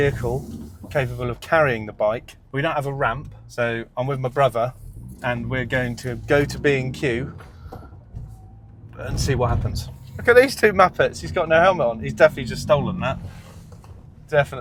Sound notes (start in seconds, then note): none